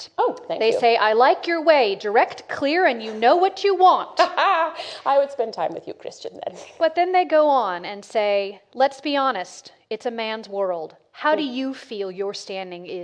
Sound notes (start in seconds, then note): 4.5 laughs loudly